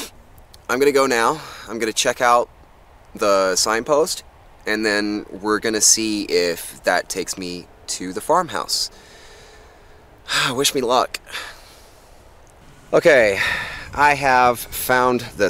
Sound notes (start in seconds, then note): 9.0 tourist sighs